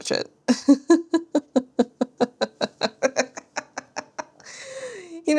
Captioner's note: laughs